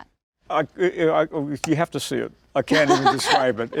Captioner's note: laughs